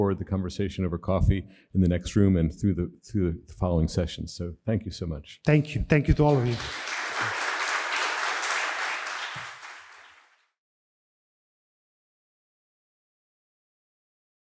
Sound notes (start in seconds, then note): 6.2 audience applauding